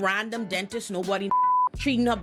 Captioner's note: beep